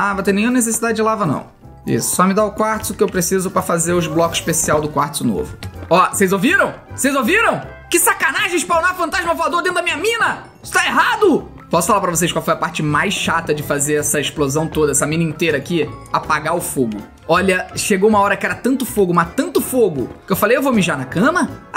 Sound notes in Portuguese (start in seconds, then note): 3.7 ghast faz barulho